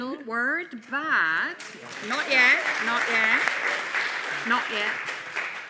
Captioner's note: audience applauding